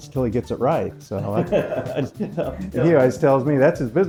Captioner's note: laughing